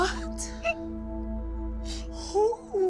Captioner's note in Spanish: Sollozos